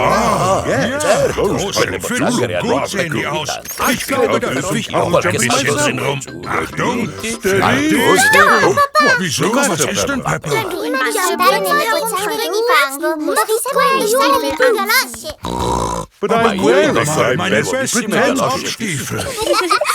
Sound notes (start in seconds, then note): 15.1 snorts